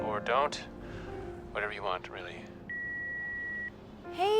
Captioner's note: line beeps